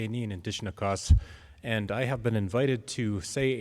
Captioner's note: speaking in native language